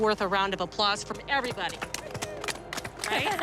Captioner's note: applause